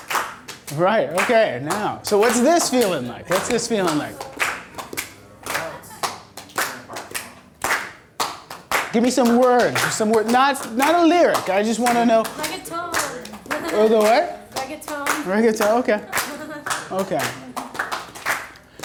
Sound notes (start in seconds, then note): 5.9 voiceover; 7.6 clapping; 12.6 voiceover; 14.9 voiceover